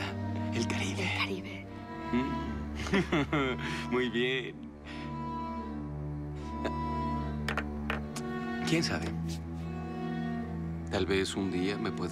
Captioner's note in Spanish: Ríe